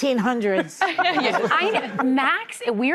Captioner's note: audience laughing